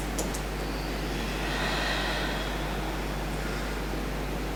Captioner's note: deep breaths